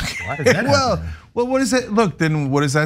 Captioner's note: laugh